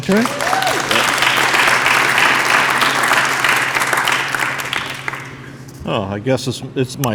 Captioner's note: applause